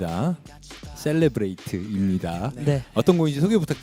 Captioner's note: in a Korean accent